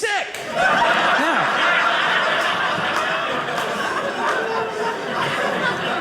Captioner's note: audience laughing